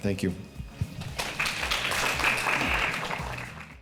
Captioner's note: audience clapping